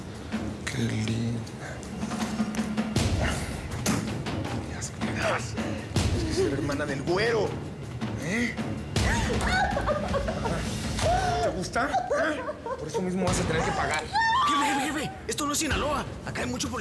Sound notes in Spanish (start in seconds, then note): 8.9 Llanto de ella; 14.0 Llorando